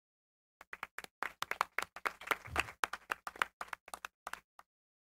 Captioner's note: applause